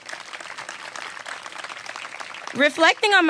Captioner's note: applause